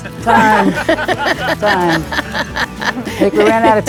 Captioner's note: group laughing